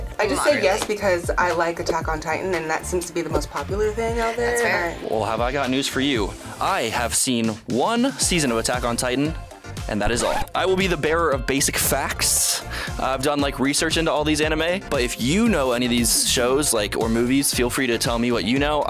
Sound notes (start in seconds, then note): 10.0 record scratches